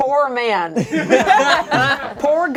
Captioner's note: laughter